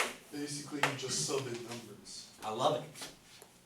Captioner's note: voiceover